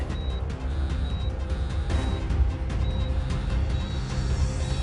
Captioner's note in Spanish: Suena el celular